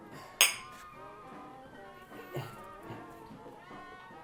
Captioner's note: glasses click